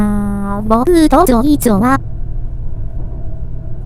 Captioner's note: Chinese